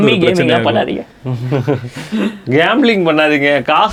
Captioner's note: group laughs